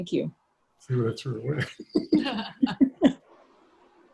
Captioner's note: laughs